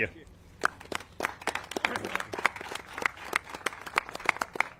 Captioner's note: all clapping